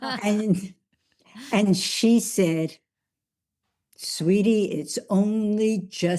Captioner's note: laughs